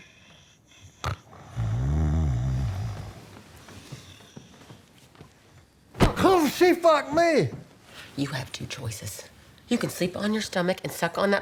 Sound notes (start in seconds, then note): 0.8 snoring; 5.6 groans